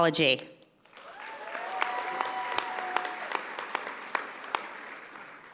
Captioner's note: audience applauding